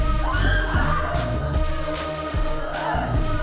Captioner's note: both screaming; upbeat music